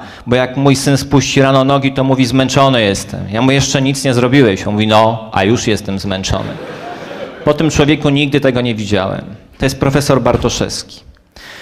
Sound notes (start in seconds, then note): 6.4 laugh